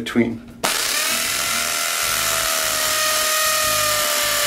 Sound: drill whirring

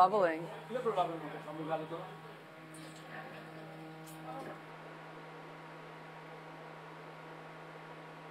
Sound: speaking Greek

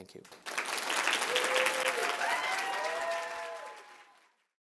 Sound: audience cheering

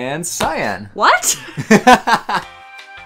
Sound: laughing

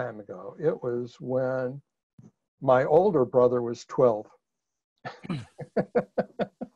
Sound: laughs

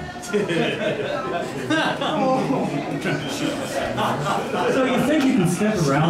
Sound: laughter

